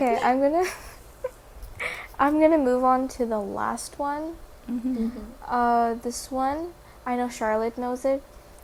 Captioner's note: giggle